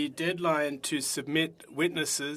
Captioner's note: speaking French